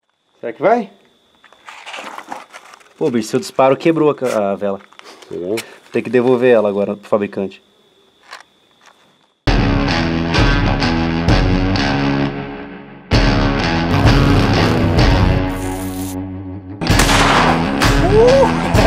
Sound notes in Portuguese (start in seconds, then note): 16.8 Disparo